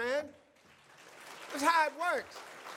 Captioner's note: audience applauds